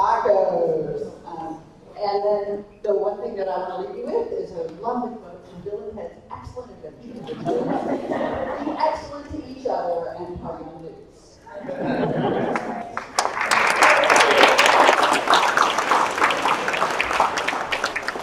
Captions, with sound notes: - Tacos! And then, the one thing that I'm gonna leave you with is a loving quote from Bill and Ted's Excellent Adventure. (attendees laughing) Be excellent to each and party on, dudes. (all clapping)